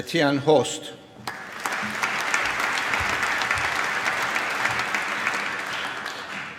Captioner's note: applause